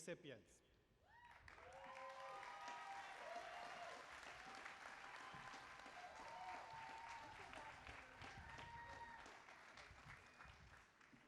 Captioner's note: applause